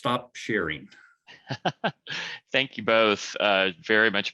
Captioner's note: laughs